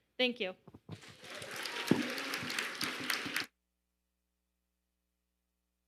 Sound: audience applauding

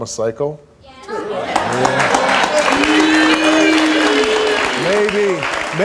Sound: audience applauding

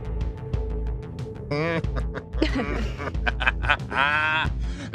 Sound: laughing

